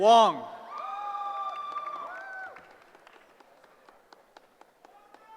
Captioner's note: cheering